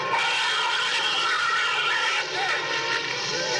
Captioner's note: shrew shrieking